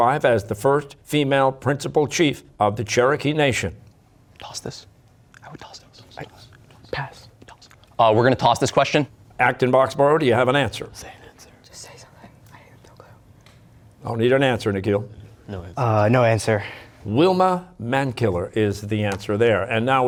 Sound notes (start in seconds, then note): 4.0 whispering; 11.0 all whispering